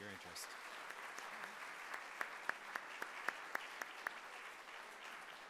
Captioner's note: audience applauding